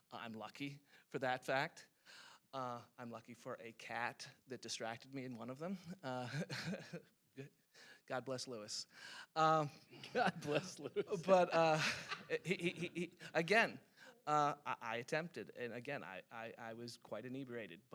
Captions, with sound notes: Uh... I'm lucky for that fact. Uh... I'm lucky for a cat that distracted me in one of them. Uh... (chuckles nervously) God bless Louis. Um... - God bless Louis. (laughing) - But, uh... he-- he-- again, uh... I attempted. And, again, I-- I was quite inebriated.